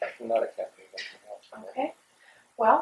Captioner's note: laughs